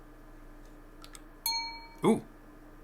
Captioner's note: email chimes